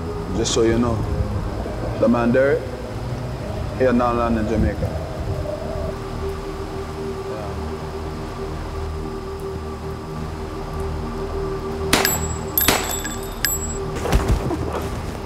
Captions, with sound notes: Just so you know, that man Derrick? He on our land in Jamaica. - Yeah. (gunshots pop)